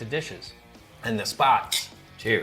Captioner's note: glasses clinking